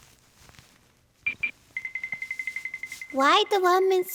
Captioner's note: tiptoeing